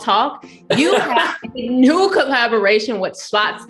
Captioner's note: laughs